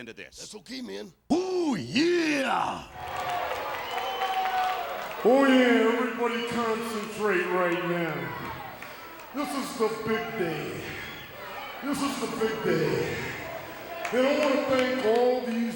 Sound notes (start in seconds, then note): 3.1 applause